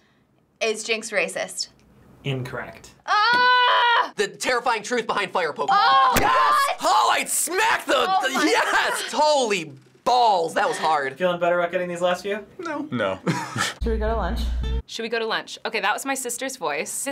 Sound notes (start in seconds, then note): 13.0 chuckles